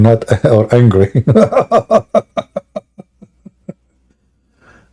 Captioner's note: Ketawa